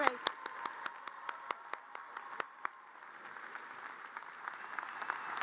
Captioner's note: audience cheers and applause